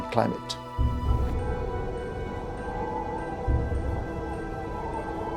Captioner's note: wind howling